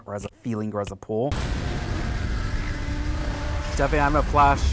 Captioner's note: loud static